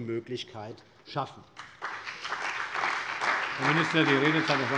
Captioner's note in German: Beifall bei der CDU und dem BÜNDNIS 90/DIE GRÜNEN